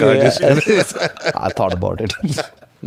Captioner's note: laughs